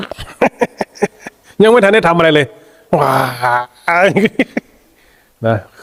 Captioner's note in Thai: เสียงหัวเราะ